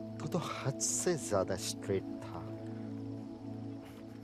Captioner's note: foreign language